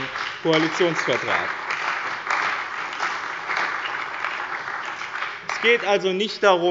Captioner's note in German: Beifall bei dem BÜNDNIS 90/DIE GRÜNEN und der CDU